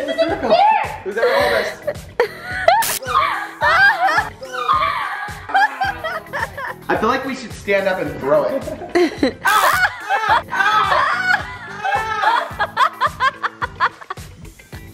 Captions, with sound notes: - I feel like we should stand up and throw it. (guy yells)